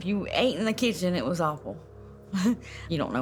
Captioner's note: chuckles